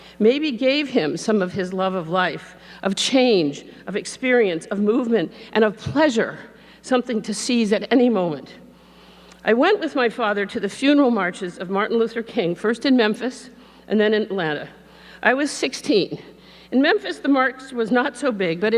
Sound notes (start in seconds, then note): none